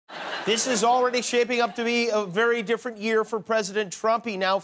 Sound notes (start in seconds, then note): 0.1 laughter